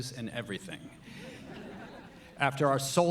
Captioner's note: audience laughing